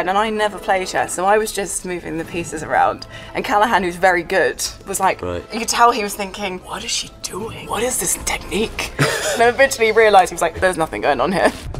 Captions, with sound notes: and I never play chess and I was just moving the pieces around and Callahan, who's very good, was like you could tell he was thinking, "what is she doing? What is this technique?" (Ben laughs) And eventually he realized, he was like there's nothing going on here.